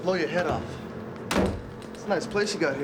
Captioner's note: door slamming